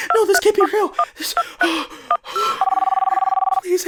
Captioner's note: heavy breathing